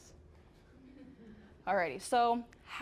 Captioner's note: audience chuckling